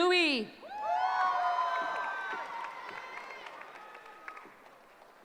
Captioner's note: cheering